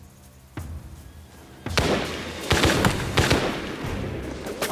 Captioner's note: gunfire